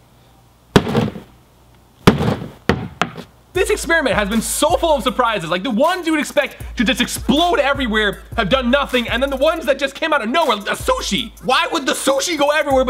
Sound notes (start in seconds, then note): 0.0 hammer banging